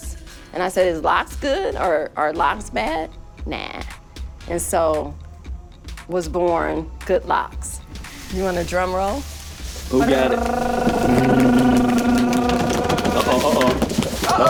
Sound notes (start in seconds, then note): 10.0 vocalizing drumroll